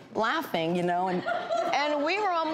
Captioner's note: audience laughs